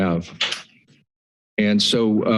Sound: pause

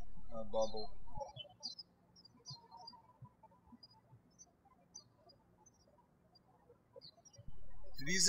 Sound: birds chirping

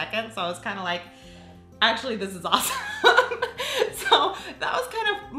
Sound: laughs

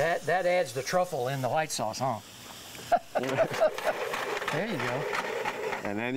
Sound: laughs

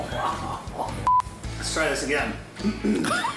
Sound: beep

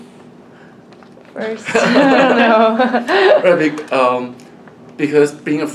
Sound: all laugh

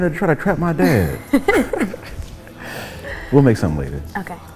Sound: people laughing

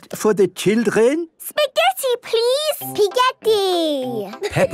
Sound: laughing

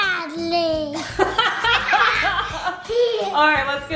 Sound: laughing

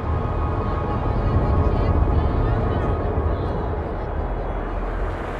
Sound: people chattering

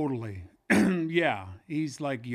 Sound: coughs

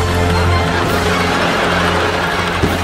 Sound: laughs; more laughs

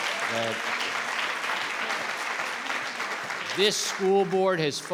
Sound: all clapping

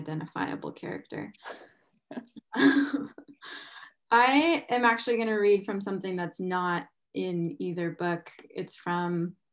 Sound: laughs

